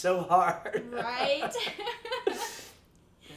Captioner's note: laughing